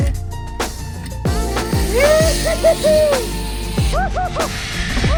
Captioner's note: squeals